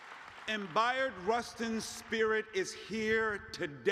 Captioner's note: cheers